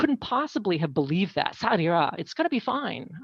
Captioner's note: speaking french